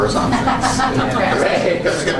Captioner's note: laughter